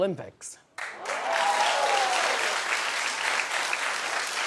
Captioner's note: audience cheering